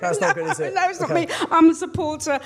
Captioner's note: laughs